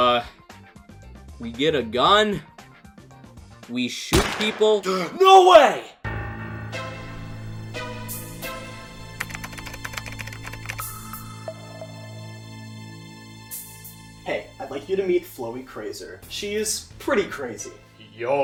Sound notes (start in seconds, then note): 4.8 gasps